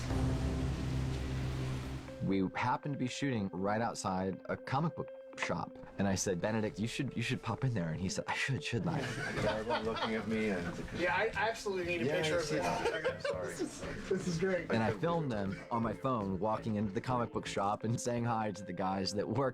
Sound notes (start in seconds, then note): 8.8 laughter